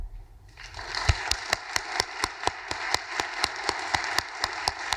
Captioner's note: audience applauding